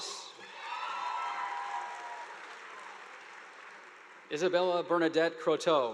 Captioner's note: audience applauding